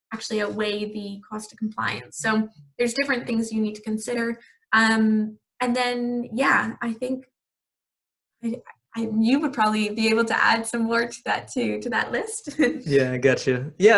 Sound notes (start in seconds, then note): 12.3 laughing